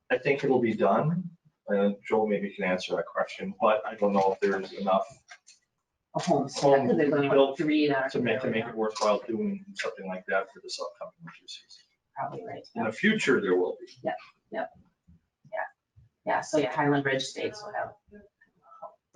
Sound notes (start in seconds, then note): 5.8 speaking faintly; 12.1 speaking faintly